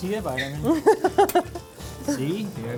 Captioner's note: laughing